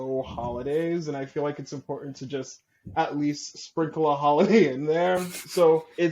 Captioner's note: light laughter